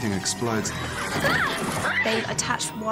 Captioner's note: hermione yelping